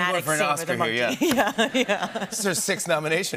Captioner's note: laughter